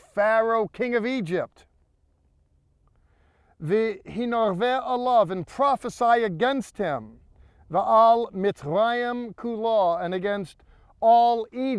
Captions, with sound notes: "Set your face against Pharaoh, king of Egypt--" [speaking in Hebrew] "And prophesy against him--" [speaking in Hebrew]